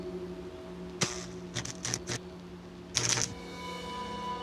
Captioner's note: suspenseful music; zapping